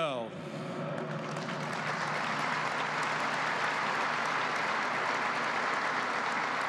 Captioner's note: applause